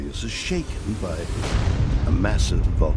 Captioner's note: boom